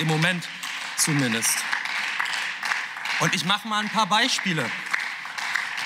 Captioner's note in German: Beifall